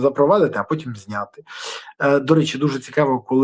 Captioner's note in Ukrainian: сопіння